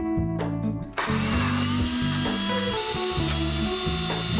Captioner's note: blending sound